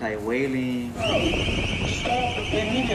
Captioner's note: siren wails